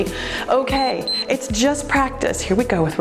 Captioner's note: timer beeps